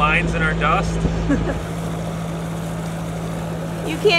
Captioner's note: laughs